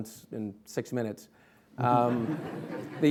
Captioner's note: laughing